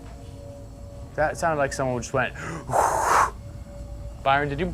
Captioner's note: exhales